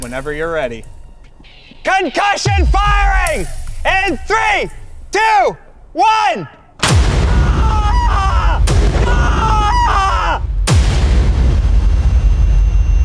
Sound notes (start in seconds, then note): 6.8 concussion explosion booming; 7.2 screaming; 8.9 concussion explosion booming; 9.7 screaming; 10.6 concussion explosion booming; 12.8 whining buzzing sound effect